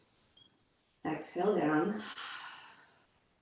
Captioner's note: exhales